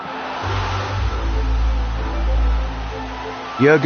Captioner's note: crowd roaring